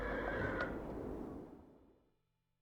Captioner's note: horse whinnying